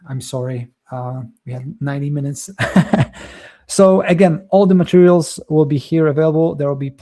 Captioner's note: chuckles